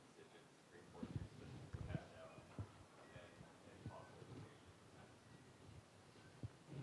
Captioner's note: student speaking faintly